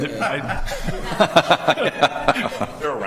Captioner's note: laughing